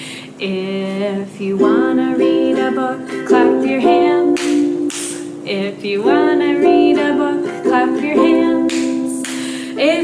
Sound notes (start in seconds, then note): 0.0 ukulele strumming; 4.3 hands clapping; 9.2 hands clapping